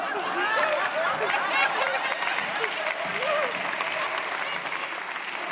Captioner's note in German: Applaus, Lachen